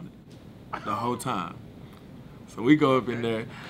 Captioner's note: laughing